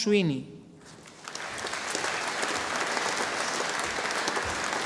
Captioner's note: audience applauding